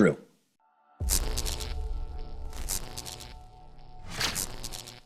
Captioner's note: electricity buzzes